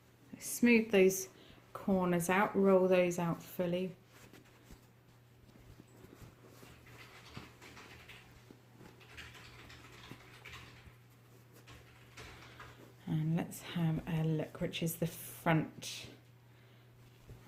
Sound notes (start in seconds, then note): 3.8 rustling